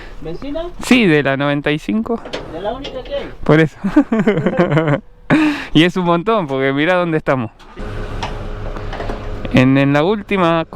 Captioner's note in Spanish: risas